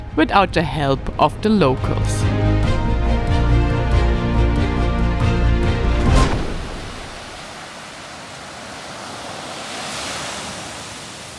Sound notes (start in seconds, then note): 2.3 lively music; 6.3 sea waves